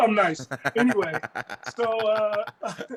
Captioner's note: laugh